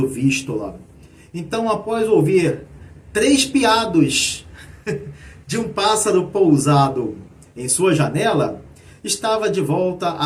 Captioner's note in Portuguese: risadas